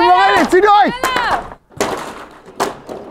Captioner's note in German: Es scheppert